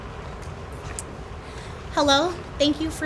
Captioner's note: none